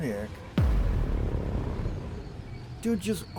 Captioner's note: cinematic boom